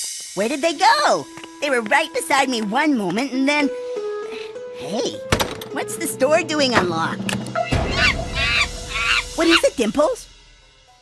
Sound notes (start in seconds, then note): 7.6 monkey noises